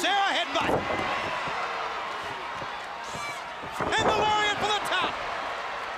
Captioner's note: crowd cheering